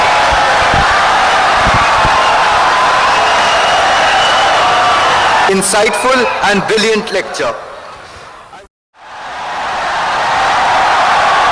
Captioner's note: wild applause and cheering for 17 seconds